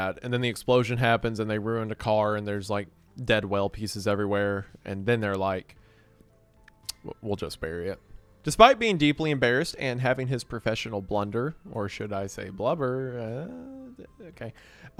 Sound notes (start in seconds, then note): 6.7 clicks tongue